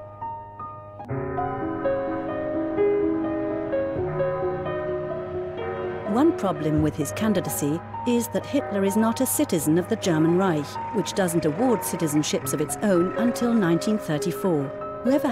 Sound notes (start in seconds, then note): 1.2 bell tolling; 1.2 calm piano music